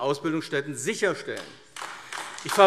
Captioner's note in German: Beifall AfD